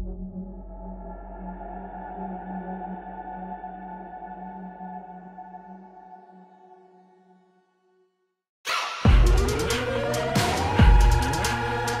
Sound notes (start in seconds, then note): none